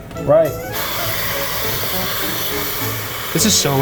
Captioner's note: steam hissing